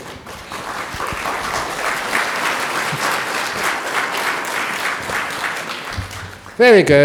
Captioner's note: applause